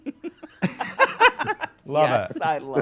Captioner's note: all laugh